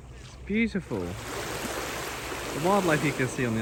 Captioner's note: waves splashing